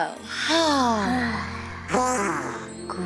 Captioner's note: exhaling